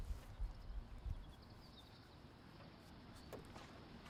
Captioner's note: birds chirping